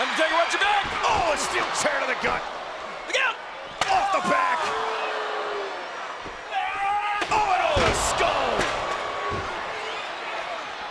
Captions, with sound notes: Undertaker, watch your back! Oh! A steel chair to the gut! Look out! Off the back! (Punk yells) Oh, and off the skull!